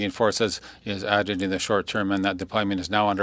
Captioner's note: speaking French